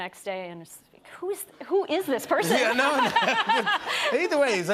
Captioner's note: laughter